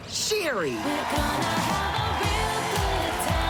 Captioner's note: car horn honks